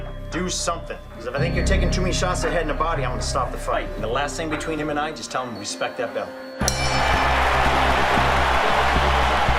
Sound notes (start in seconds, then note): 6.6 dings; 6.7 crowd cheering